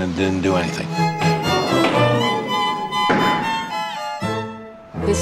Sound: classical music up; gavel sfx

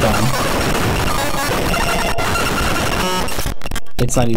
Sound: virus blaring

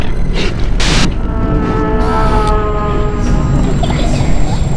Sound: animatronic Screeching

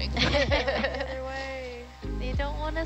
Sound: women laughing

